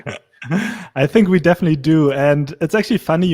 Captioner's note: laughs